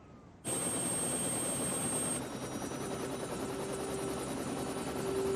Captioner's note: helicopter blades whirring